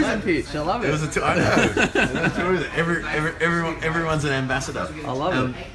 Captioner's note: laughing